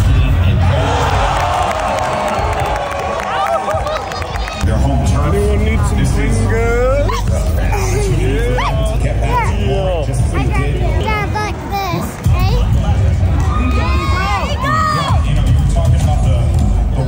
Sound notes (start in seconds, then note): 7.1 kids chattering